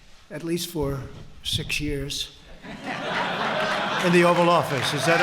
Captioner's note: laughter